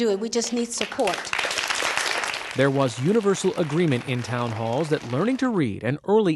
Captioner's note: applause